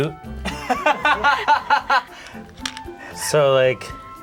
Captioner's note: laughs